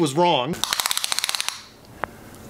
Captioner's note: judgemental clicking of a measuring tape